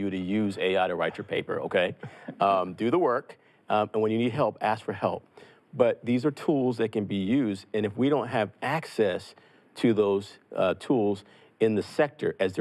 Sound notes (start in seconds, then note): 0.9 laughs